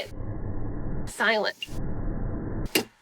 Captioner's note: whoosh